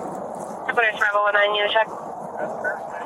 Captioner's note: radio chatter